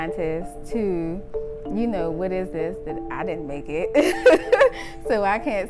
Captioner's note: laughs